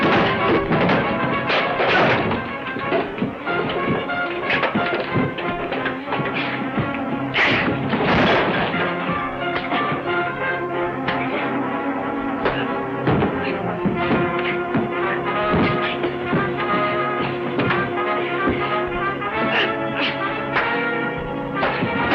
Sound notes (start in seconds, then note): 3.1 dramatic trumpet music; 8.4 wall rattling; 9.7 fist connecting; 17.0 lively orchestral music